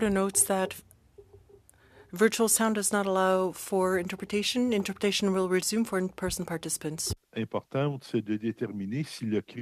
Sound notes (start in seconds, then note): 3.7 speaking french